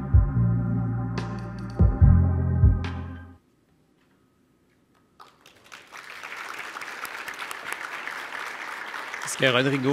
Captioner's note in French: applaudissements